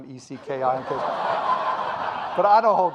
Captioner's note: audience laughing